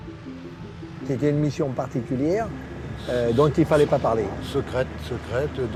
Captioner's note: speaking in French